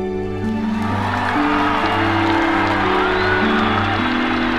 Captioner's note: audience applauding